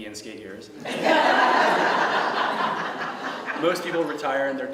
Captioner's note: laughter